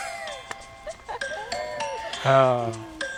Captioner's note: laughter